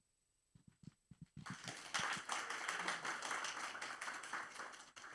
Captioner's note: applause